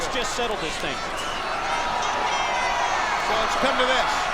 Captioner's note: spectators cheering